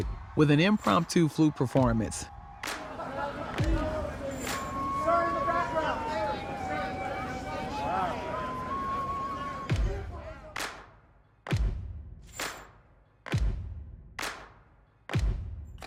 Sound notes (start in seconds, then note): 2.9 people shouting; 4.9 flute music; 9.7 upbeat music